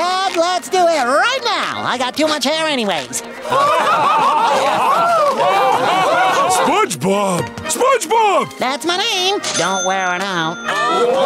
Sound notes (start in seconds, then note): 5.7 laughter